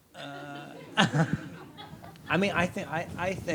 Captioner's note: audience laughs